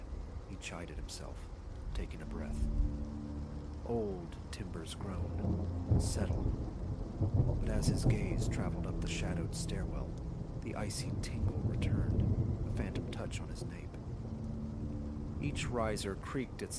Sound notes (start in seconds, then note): 5.1 old timbers groan, settle